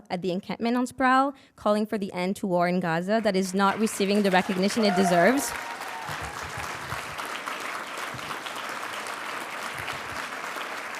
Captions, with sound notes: at the encampment on Sproul, calling for the end to war in Gaza that is not receiving the recognition it deserves. (audience cheering and applauding)